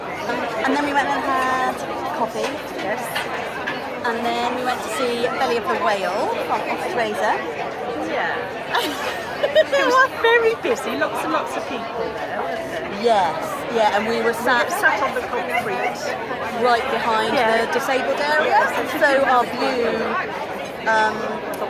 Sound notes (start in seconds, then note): 8.7 laughter